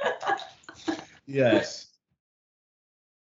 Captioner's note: laughing